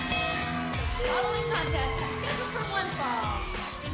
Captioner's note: bell ringing